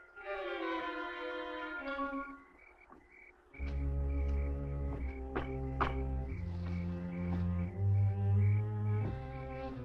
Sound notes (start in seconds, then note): 5.6 knuckles rapping